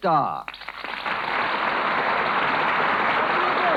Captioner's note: applause